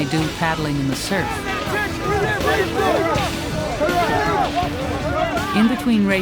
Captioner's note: students shouting